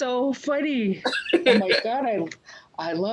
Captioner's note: laughs